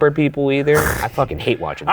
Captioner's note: chuckles